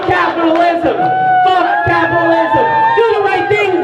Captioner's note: crowd cheering